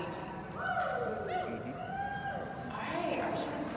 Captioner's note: scant cheers from the audience